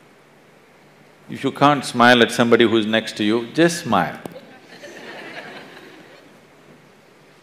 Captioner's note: laughter; 笑聲